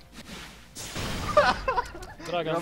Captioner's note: laughter